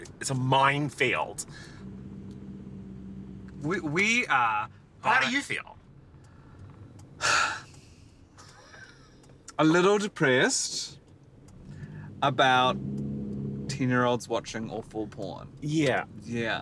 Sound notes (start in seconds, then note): 7.2 sighs